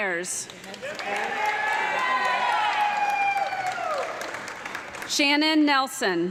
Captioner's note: audience clapping and loud cheering